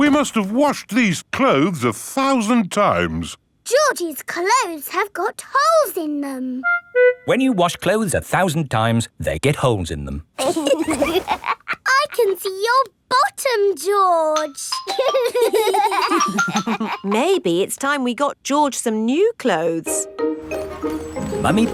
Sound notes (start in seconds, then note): 10.4 laughs; 14.8 giggling